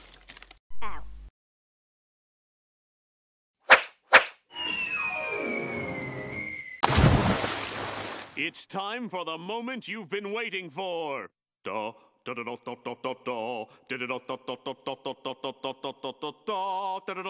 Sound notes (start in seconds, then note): 0.0 crash!; 3.7 whip, Swish!; 6.8 splash